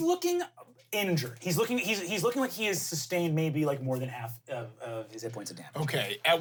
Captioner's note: none